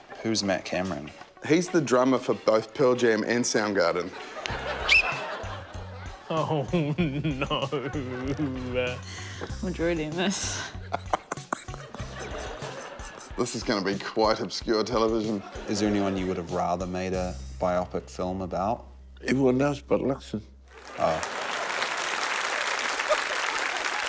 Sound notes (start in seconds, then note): 4.8 blows whistle; 10.4 laughs; 20.7 applause